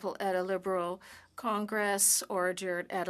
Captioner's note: speaking French